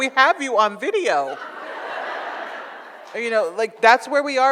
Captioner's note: audience laughs